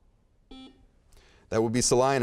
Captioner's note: beeping